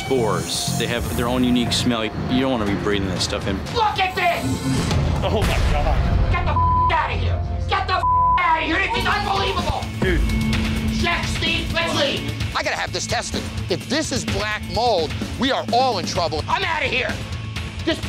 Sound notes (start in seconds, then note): 4.4 intense music continues; 6.5 beep; 17.0 intense music continues